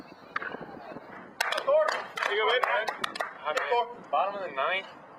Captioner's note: applause